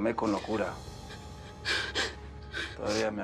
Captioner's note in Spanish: Sollozos